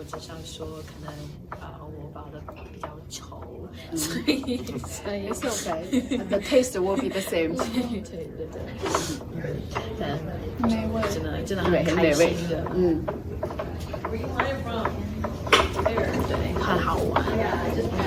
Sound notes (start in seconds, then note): 0.0 laugh